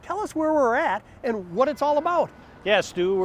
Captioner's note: bells tolling